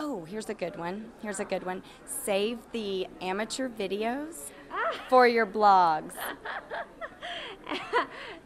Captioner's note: laughing